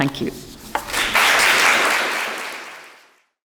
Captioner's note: members applaud